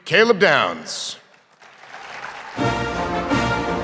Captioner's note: audience applauding